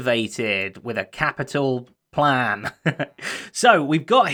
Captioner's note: chuckles